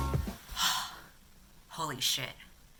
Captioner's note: 𝘴𝘪𝘨𝘩